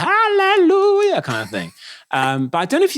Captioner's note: laughing